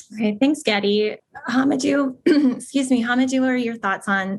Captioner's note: cough